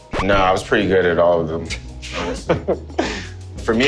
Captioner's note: laughs